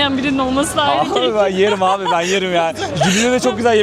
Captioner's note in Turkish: kahkaha